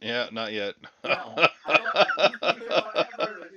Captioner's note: laughter